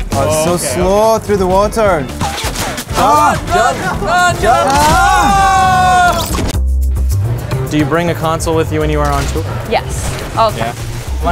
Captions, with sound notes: Ugh, so slow through the water. [Bullet sounds] Run! Run! Get out of the wat— [Group yelling] Do you bring a console with you when you are on tour? Yes. All the time.